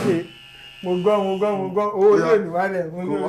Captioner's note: buzzer sounds